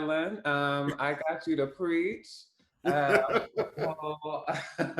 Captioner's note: laughter